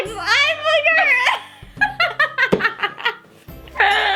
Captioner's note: laughing